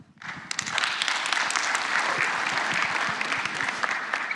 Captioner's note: applause